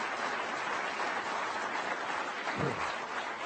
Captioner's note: applause